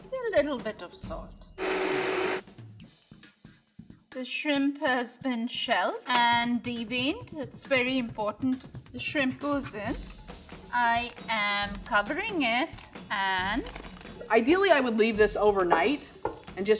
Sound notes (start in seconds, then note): 1.6 blender whirring